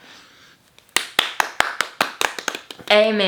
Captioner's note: both clapping